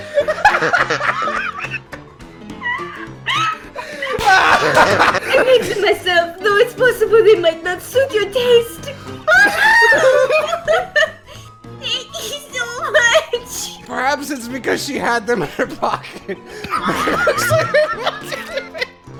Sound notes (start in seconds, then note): 2.6 whimpering